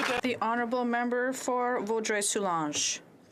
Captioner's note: some Applause